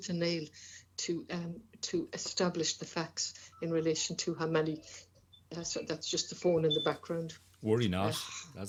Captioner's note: phone Rings